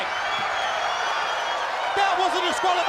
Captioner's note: crowd cheering